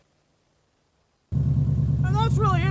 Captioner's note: boxer rumble